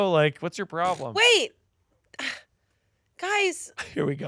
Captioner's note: sighs